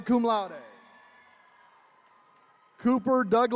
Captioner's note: attendees cheering